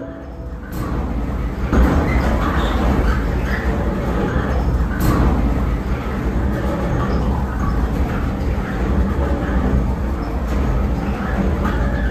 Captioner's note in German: Baulärm